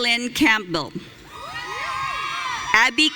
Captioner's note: audience cheering